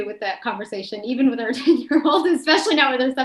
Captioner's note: chuckles